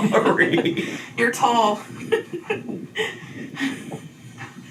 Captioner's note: laughs